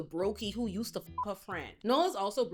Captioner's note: beep